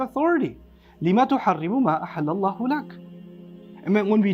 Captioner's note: Arabic